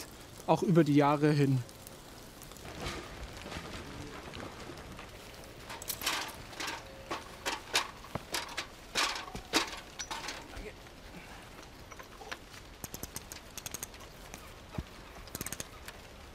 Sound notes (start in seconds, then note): 11.1 creaking; 13.5 bird sounds